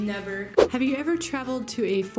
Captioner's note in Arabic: سووش